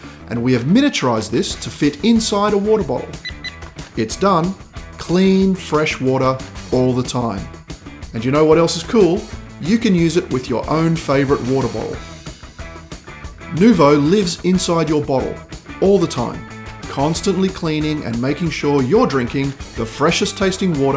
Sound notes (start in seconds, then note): 3.2 beep beep